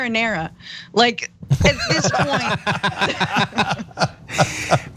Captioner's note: laugh